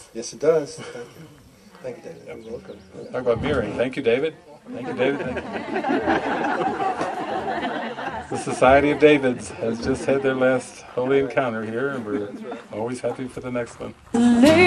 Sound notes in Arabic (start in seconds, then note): 13.6 ضحك